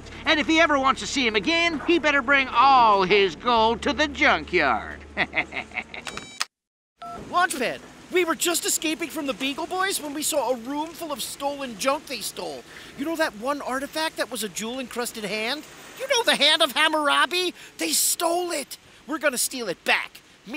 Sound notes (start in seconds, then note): 5.1 evil laughter; 6.0 beeps